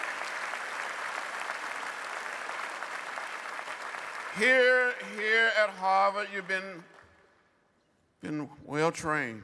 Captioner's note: applause